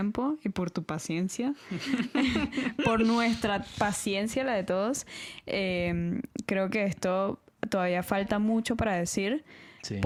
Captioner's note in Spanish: risas